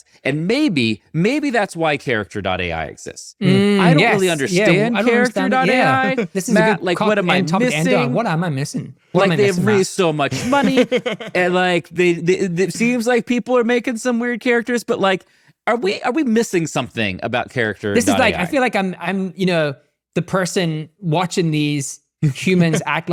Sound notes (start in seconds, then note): 4.1 chuckling; 10.3 laughing; 22.5 chuckling